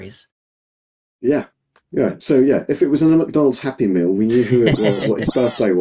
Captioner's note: laughing